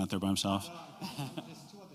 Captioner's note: laughter